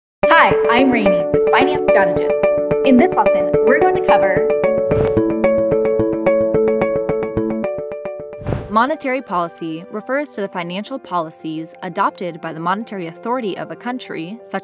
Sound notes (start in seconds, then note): 4.9 swish; 5.5 light uplifting music; 8.4 swish